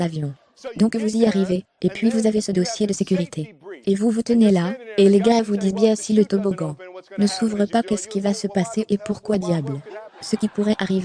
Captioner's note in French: rire